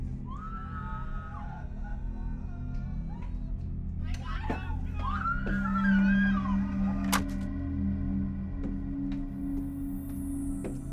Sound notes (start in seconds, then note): 4.8 ominous music; 4.9 woman screaming